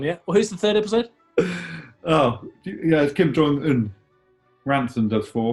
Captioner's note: laughs